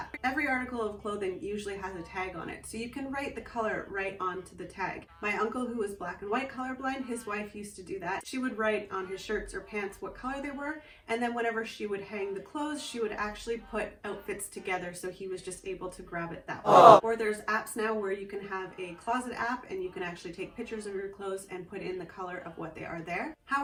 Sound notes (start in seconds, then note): 16.6 awww